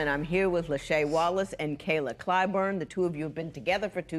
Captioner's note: none